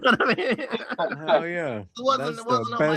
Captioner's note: laughing